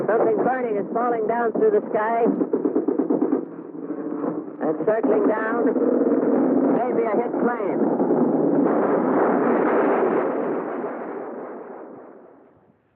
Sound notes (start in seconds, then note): 2.6 artillery firing; 8.7 bombs exploding